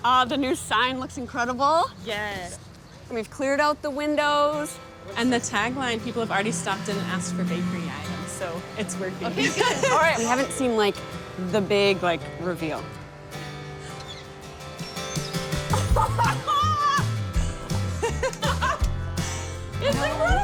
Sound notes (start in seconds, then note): 9.3 laughs; 14.0 gentle guitar music; 15.5 all laughing excitedly